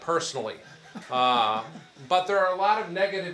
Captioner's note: attendees chuckle